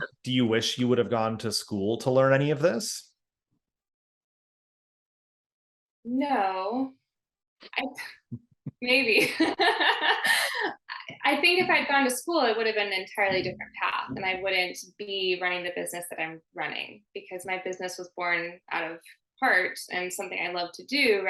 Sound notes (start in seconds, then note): 9.2 laughing